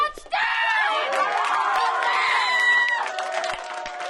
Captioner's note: applauding